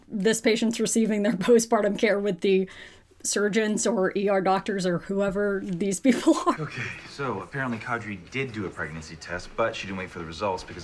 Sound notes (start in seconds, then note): 6.1 laughs